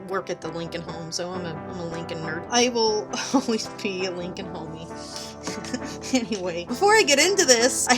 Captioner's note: laughs at own joke